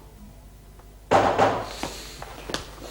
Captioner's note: knocking